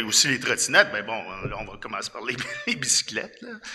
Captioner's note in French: rires